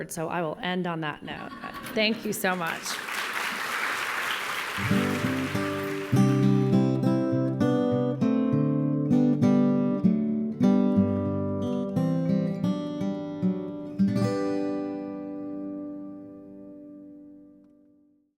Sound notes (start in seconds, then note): 1.4 laughter; 9.4 applause